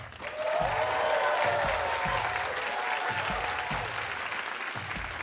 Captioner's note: cheers and applause